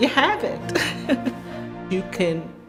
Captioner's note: laughs